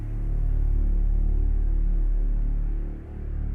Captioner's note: none